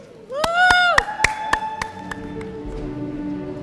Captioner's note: applause